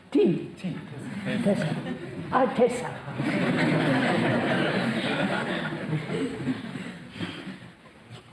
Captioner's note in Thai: หัวเราะ